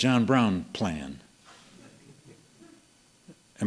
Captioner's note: laughter